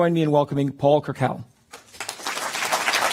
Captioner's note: applause